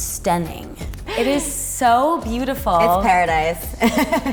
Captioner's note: laughing